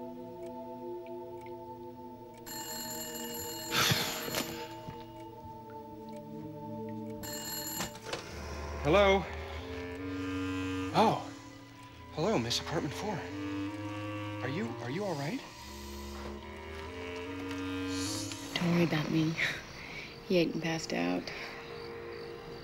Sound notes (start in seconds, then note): 7.0 <i> phone ringing</i>